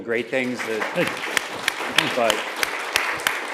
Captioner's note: applause